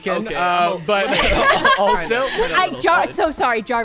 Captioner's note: players laughing